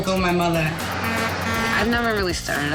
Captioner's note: truck horn